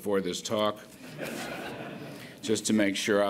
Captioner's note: laughter